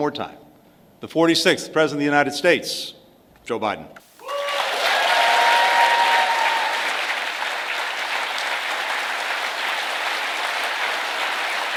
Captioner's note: applause